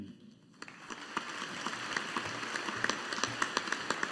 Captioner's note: audience applauding